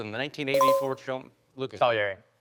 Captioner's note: bell dinging